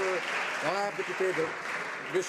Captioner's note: some Applause